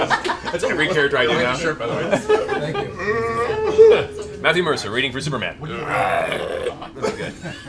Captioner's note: croaking noise